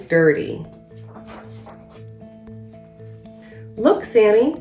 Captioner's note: uplifting instrumental music; pages shuffles